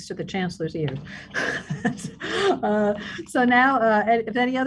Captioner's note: laughing